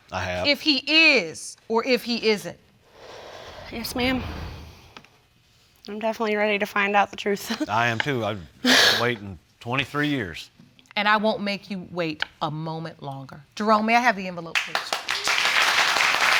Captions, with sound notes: I have. ...if he is or if he isn't, Yes, ma'am. I'm definitely ready to find out the truth. I am, too. I've been waiting 23 years. And I won't make you wait a moment longer. Jerome, may I have the envelope, please? (AUDIENCE APPLAUDING)